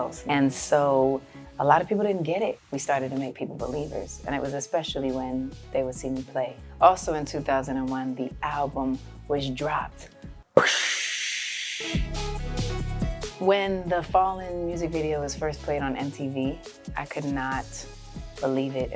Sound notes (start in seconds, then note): 10.6 imitates explosion; 11.9 lively music